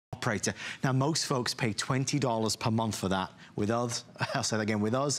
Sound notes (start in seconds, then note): 4.1 laughter